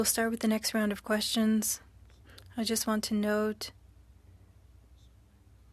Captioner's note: speaking French